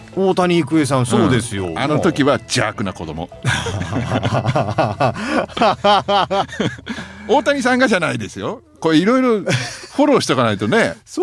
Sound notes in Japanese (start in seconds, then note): 3.4 笑い